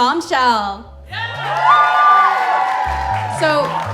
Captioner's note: cheering